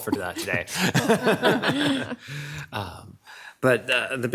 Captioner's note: people giggling